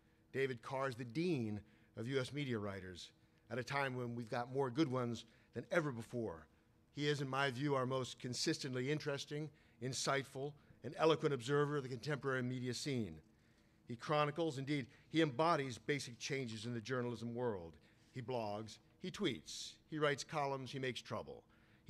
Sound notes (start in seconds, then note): none